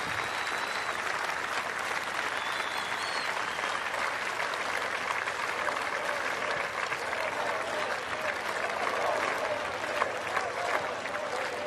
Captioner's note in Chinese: 鼓掌; Applause